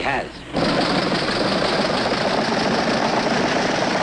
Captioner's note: engines roaring